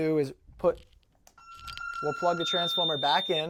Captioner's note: beeping